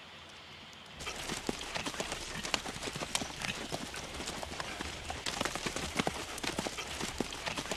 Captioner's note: horses huffing